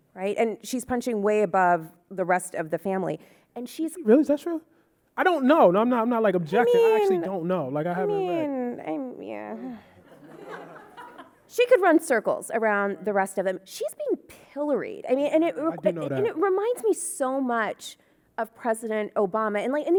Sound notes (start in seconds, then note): 10.0 audience laughing